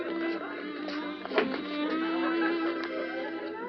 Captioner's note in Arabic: يفتح الباب